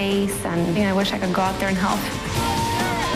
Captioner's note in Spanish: cheering